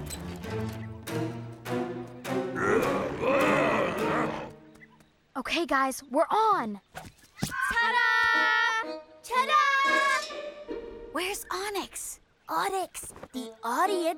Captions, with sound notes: [MUTTERING] OK, GUYS. WE'RE ON! TA-DA! TA-DA! TA-DA! TA-DA! WHERE'S ONYX? ONYX, THE AUDIENCE IS WAITING.